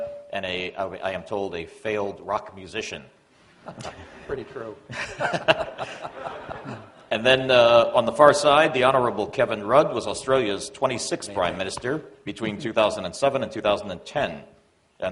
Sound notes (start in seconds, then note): 4.8 laughter